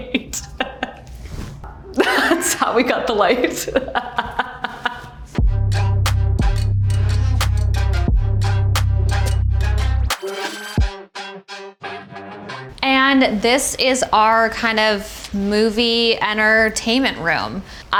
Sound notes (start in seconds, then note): 0.0 Ashley laughs; 4.0 Ashley laughs; 5.4 bouncy upbeat music